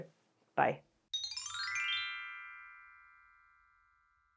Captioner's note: chime